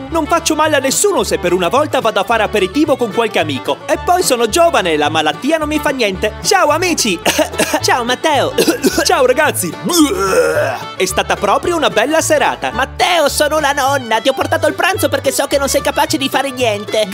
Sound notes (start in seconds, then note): 8.5 cough; 9.8 barf